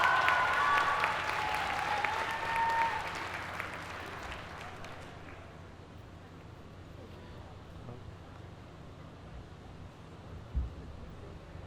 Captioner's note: applause